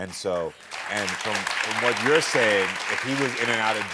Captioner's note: audience applauding